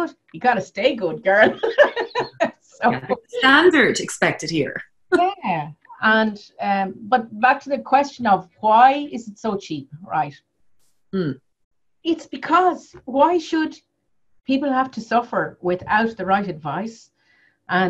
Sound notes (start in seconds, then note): 1.3 laughs